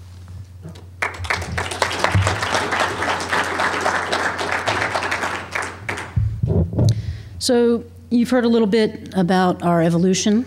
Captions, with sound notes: [ APPLAUSE ] >> SO, YOU HAVE HEARD A LITTLE BIT ABOUT OUR EVOLUTION,